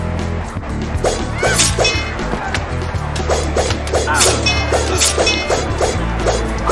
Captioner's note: all grunting; wind whooshing